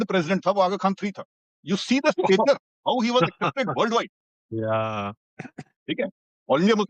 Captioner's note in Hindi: हंसी